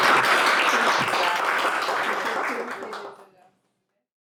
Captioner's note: applause